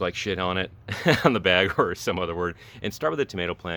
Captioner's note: laughs